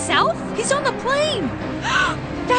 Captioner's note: gasp